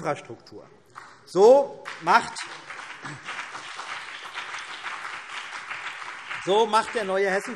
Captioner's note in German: Beifall CDU und BÜNDNIS 90/DIE GRÜNEN